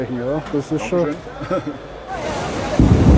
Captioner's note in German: lacht